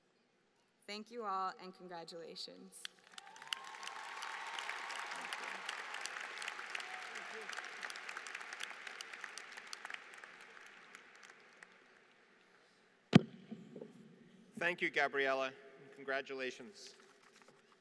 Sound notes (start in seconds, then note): 2.8 applause